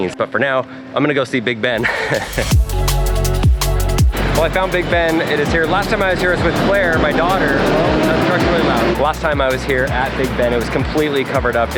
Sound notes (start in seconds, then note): 2.3 upbeat music playing; 7.9 traffic sounds